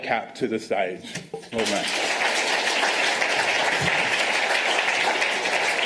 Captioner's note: applause